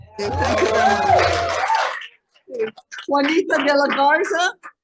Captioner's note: audience applauding